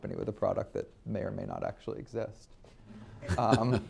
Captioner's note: laughs